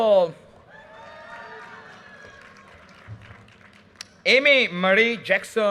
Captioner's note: audience cheers and applause